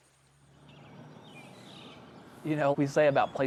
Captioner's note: birds chirping